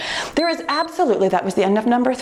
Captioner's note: timer beeps